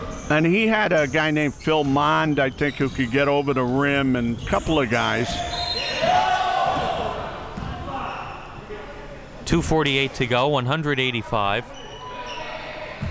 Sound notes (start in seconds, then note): 5.2 people yelling; 11.9 players yelling